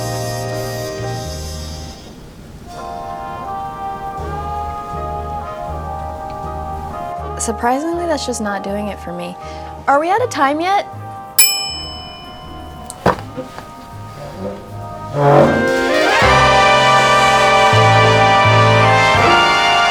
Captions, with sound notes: - Surprisingly, that's just not doing it for me. Are we outta time yet? (bell dings) (slow romantic music)